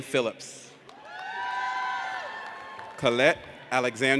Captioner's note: audience cheers